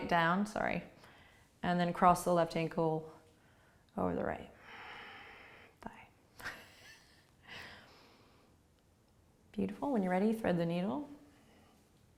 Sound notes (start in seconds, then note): 6.5 laughing